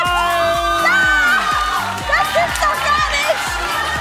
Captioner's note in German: Jubel